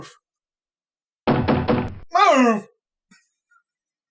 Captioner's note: knocks on window